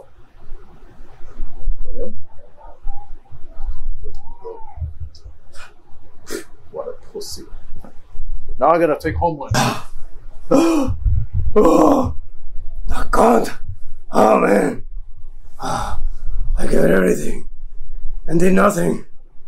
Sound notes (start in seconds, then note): 5.6 scoffs; 10.5 Billy Butcher sighs loudly